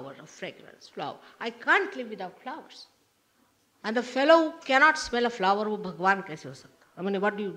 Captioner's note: hindi